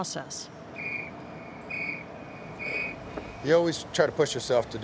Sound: whistle blowing

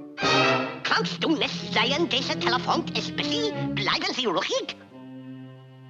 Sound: speaking in German

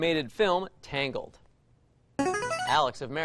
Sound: buzzer plays

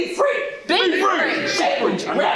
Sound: crowd

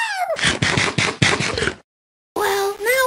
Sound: eating sounds

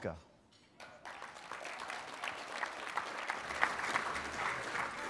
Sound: applause

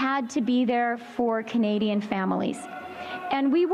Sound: chanting

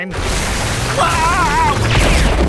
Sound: screaming

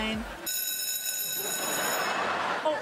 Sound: bell ringing; laughing

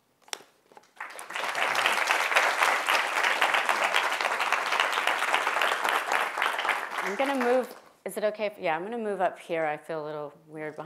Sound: applause

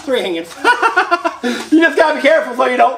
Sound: laughs

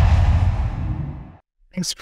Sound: logo swooshes

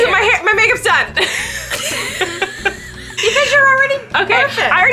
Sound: laughing

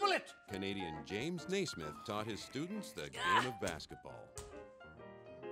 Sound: voiceover

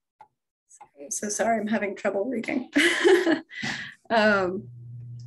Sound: laughs

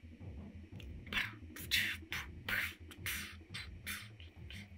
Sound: epic beatboxing

